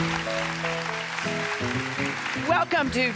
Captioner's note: audience claps